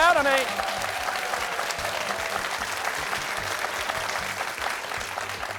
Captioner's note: applause